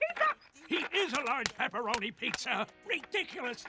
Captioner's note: thumping